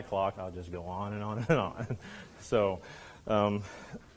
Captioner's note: laughs